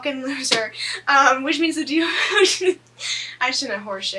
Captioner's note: laughs